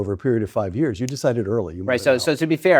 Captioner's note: snapping fingers